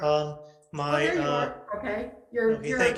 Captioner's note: speaks faintly